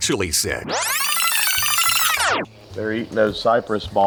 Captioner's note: film rewinding